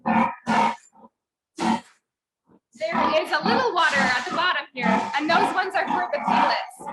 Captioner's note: pigs grunting